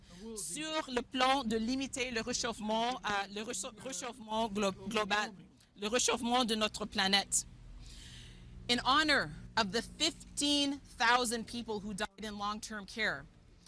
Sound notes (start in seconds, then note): 1.2 speaking French